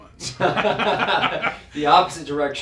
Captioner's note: laugh